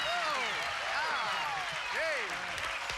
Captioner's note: cheers and applause